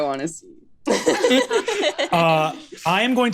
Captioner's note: laughs